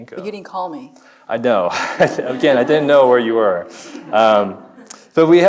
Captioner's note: chuckles